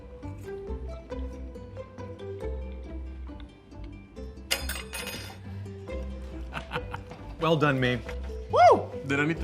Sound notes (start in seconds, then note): 0.4 whimsical music; 4.5 fork clattering; 6.4 laughing